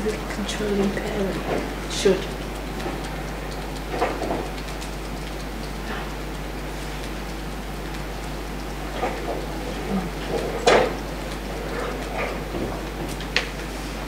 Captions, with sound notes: Contributing pain should. (tapping fingers)